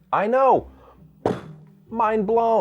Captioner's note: he mimics explosion noises